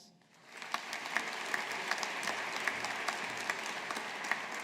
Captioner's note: audience applauding